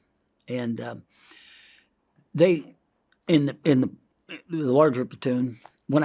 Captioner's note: inhales